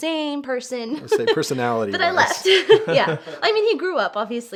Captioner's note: laughs